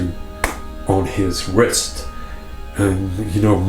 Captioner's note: hand thuds